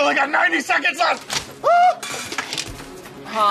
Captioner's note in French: claquement; pousse un cri